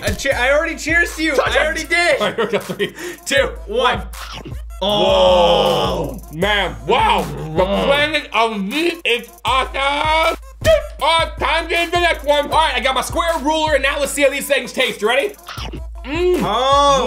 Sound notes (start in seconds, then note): 4.0 chomping; 15.9 chomping